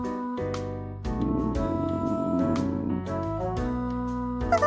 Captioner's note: gurgle